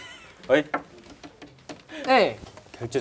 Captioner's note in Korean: 톡톡톡